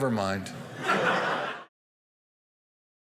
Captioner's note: audience laughing